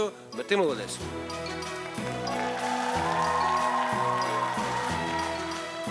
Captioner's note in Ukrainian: оплески